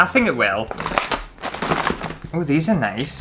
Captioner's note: rips Open Bag